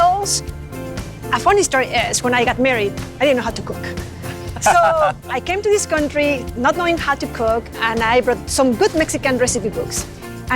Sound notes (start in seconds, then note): 4.5 laughs